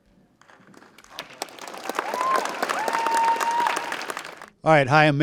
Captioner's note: audience cheering and applauding